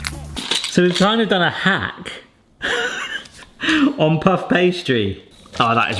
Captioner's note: upbeat music; laughs